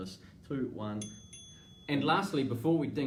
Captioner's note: alarm dings